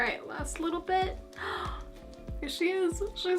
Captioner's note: gasp